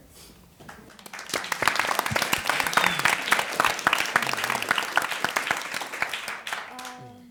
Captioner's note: applause